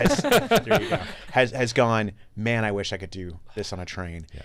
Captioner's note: laughing